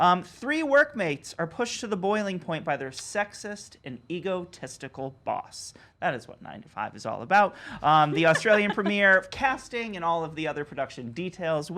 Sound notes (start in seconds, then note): 8.0 laughs